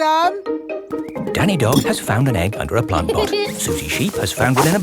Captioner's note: laughs